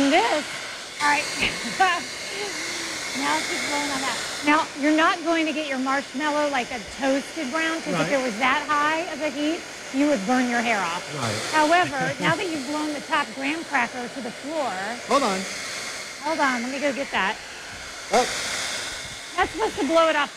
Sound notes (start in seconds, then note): 9.1 laughs